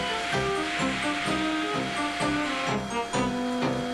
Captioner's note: none